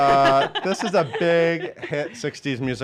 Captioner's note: laughs